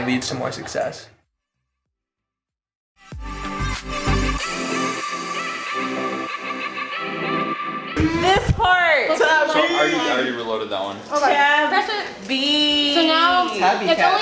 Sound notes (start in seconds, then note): 9.3 man Yelling